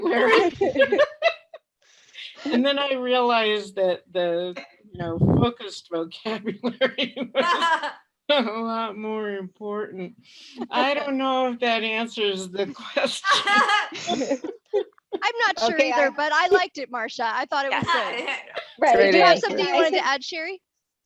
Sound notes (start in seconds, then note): 0.0 laughs